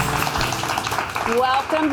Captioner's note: applause